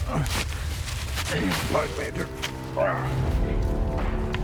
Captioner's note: grunts